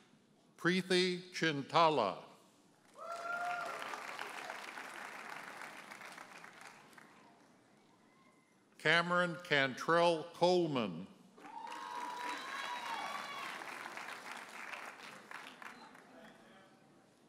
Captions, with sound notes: Preethi Chintala. (audience cheers and applauds) Cameron Cantrell Coleman. (audience cheers and applauds)